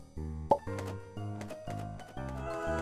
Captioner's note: whimsical music; ethereal music; wings flapping